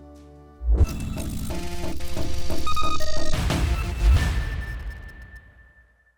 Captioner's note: mechanical noises and buzzing